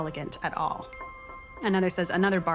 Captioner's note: message dings